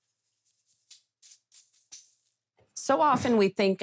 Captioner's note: sieve tapping